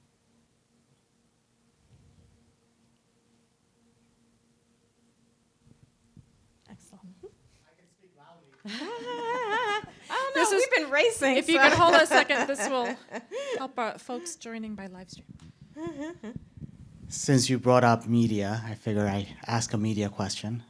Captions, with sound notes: Excellent. [LAUGHS] We've been racing-- If you can hold a second, this will help out folks joining by live stream. Since you brought up media, I figure I ask a media question.